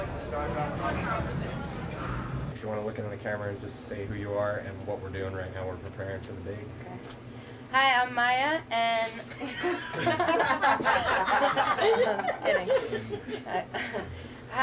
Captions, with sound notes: - Do you want to look into the camera and just say who you are and what we're doing right now? We're preparing for the big - - OK. Hi, I'm Mýa and - [laughs] Kidding.